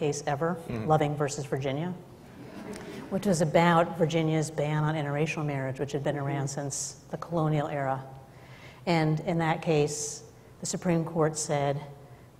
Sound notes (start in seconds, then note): 2.3 laughter